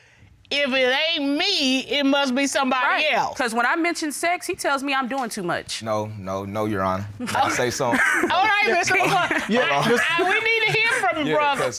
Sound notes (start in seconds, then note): 7.2 Taurus chuckles; 7.2 chuckling